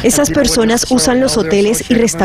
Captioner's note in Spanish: habla en ingés